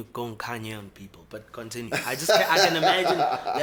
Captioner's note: laughs